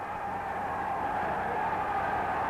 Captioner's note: crowd cheering